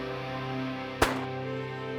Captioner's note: gun shot